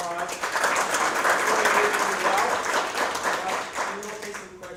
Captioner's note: applause